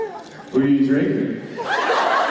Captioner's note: drunkenly slurring; laughter